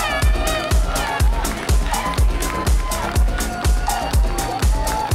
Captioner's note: applause; screams